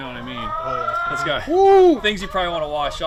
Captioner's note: exclaims